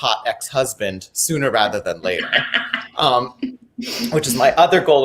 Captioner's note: laughing